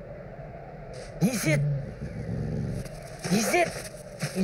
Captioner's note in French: Petit grognement